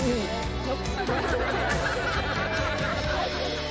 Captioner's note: group laughing